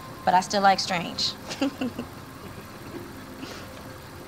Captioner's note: Daphne laughs